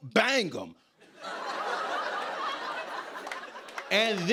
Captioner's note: laughter